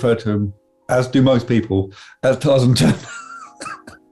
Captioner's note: giggling